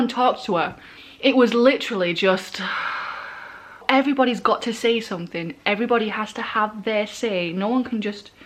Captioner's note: sighs